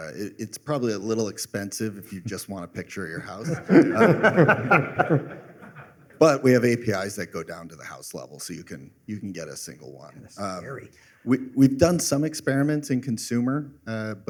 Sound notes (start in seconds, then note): 3.4 laughter